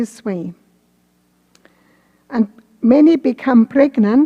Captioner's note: none